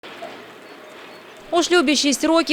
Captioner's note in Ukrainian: спів птахів